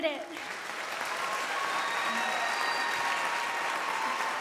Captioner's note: crowd applauding